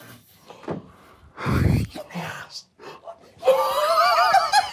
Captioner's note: group quietly gasps; laughs